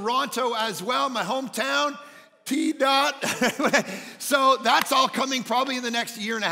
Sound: chuckles

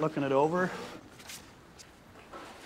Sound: papers rustling

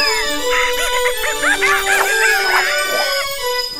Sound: hooting

